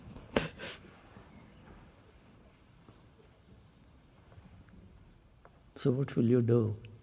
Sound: laughs

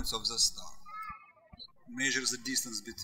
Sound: birds chirping

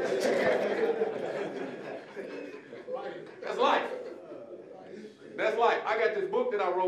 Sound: audience laughing

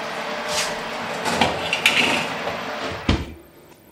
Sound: oven roar

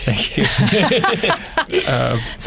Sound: laughter

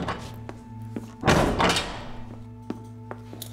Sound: door clicks open; door clicks shut

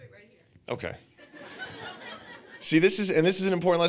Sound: audience laughing

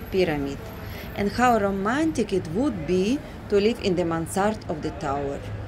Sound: street & Traffic Noise

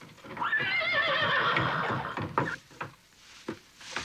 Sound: horse whinnying

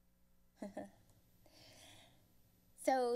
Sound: giggles

